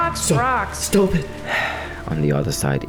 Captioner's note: sigh